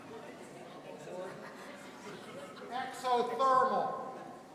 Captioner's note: audience laughing